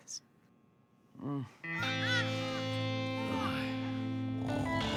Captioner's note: grumbling